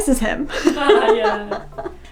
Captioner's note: both laugh